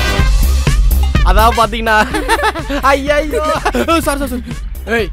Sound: indistinct chattering

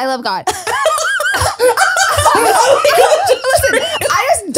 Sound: everyone laughs

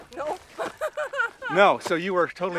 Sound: Lindsey chuckling

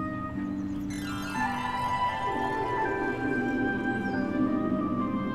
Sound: twinkling sound

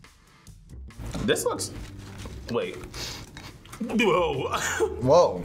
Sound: sniffs

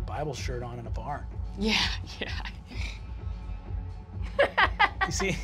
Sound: laughs nervously

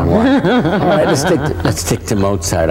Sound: laughs

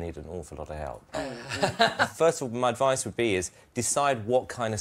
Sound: laughter

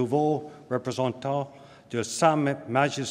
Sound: speaking french

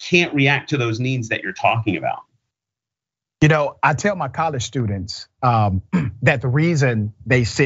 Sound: cough

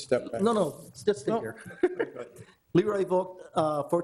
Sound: chuckling

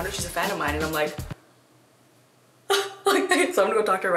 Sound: laughs

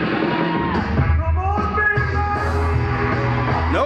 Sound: exhales shakily

